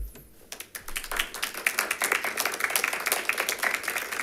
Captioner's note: members clapping